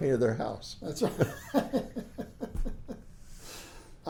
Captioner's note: laughs